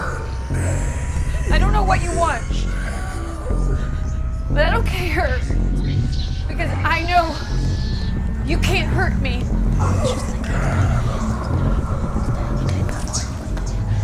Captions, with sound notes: Her name is Erin. - I don't know what you want, but I don't care, because I know... ...you can't hurt me. - [Creepy Voice] Look at her.